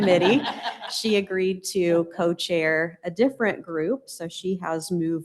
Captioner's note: laughter